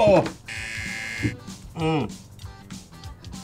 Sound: buzzer

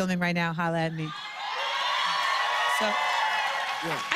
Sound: cheers and applause

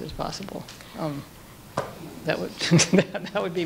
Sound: laughter

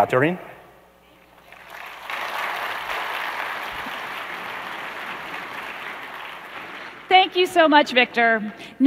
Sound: applause

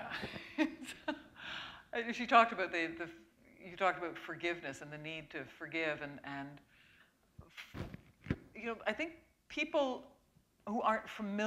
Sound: laughter

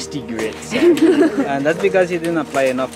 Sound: laugh

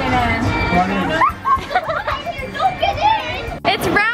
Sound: laughing

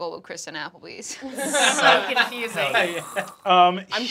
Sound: group laughing

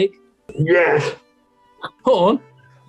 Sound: gruffly

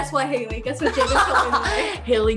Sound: murmurs

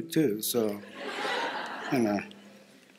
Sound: laughter

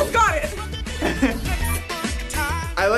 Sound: laughs

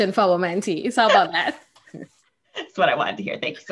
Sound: laughing

